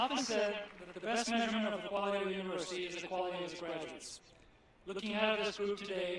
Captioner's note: applause